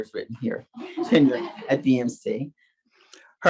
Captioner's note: audience laughs